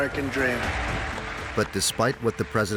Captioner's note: crowd applauding